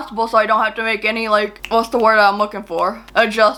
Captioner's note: clicks fingers